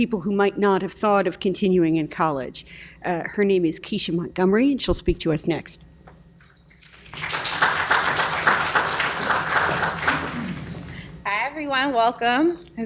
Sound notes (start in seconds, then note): 6.8 applause